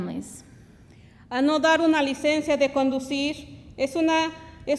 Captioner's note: speaks Spanish